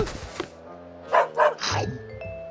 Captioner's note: dog barks